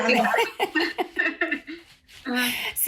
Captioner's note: laugh